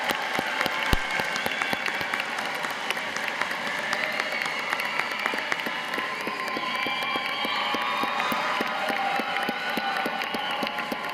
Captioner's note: cheers and applause